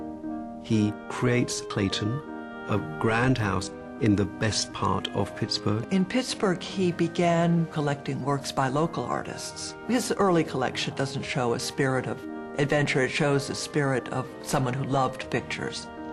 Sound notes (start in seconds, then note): 6.0 voiceover